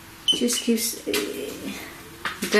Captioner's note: beeps twice